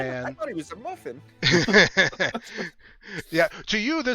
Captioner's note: laughter